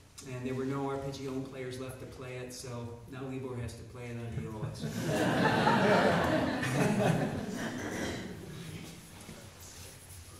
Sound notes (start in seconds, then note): 4.8 audience laughing